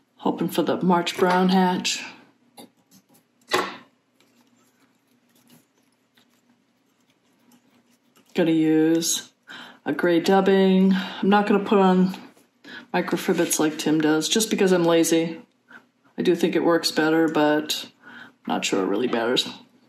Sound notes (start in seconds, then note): none